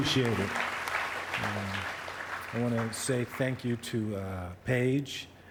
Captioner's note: applause